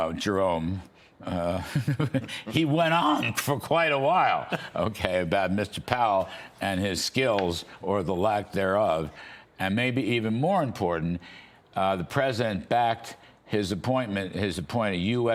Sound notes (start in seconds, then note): 4.4 laughter